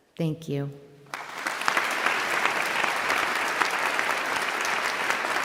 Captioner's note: audience applauding